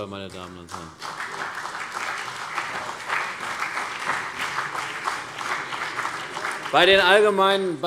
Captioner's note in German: Beifall CDU und BÜNDNIS 90/DIE GRÜNEN